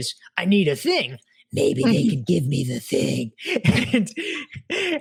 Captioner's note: both laugh